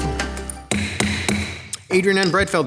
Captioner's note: gavel thudding